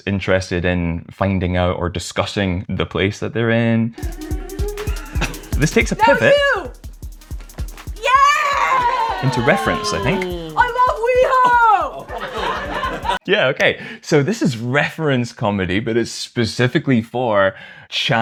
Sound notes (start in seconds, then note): 11.2 laughter